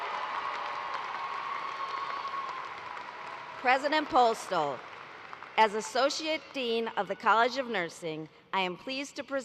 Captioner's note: cheers and applause